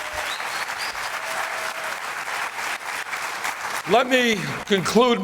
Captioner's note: applause